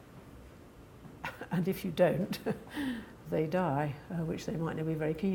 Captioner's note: chuckles